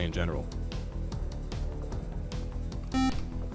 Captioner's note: buzzer